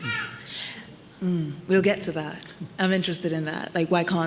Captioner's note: laughs